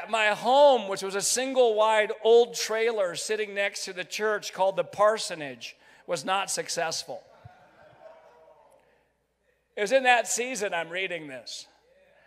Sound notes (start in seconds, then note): 7.5 crowd laughs; 11.8 crowd